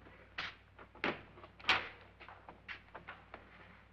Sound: door opens

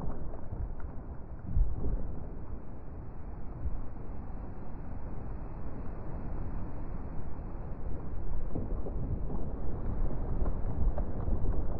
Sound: crumbling like sound FX

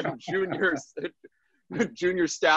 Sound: laughs

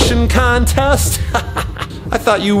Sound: laughs

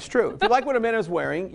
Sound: chuckles

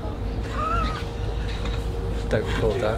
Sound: laughs

